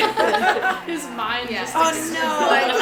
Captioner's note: everyone laughs